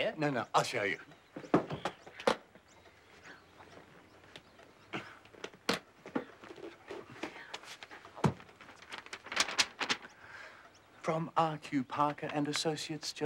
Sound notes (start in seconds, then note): 2.2 suitcase lock clicks open; 9.3 paper shuffling